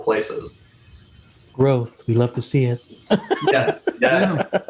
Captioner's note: laughs